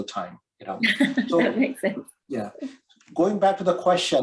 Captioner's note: laughs